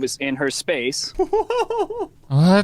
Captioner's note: laughing